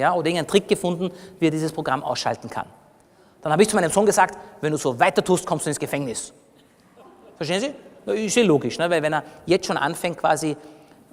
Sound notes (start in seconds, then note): 7.0 laughter from the audience